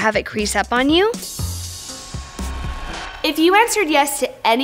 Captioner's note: static